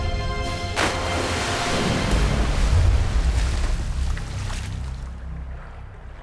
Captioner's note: splashing